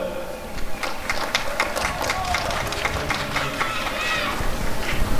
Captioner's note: applause and cheering